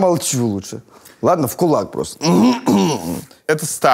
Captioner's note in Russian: откашливается